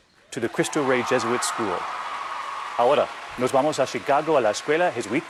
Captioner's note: speaking foreign language